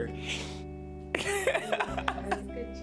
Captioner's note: laughs